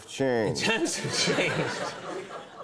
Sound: audience laughing

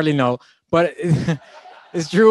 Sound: laughing

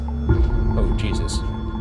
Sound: REM-Pod beeping

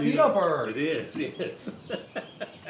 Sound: laughs

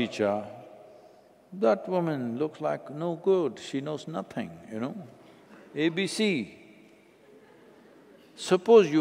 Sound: laughter

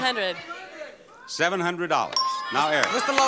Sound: counter beeps

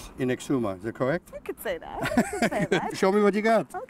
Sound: laughs

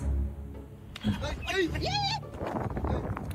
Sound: clip: squeals from people watching

